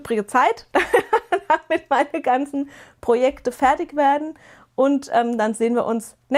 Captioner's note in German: gelächter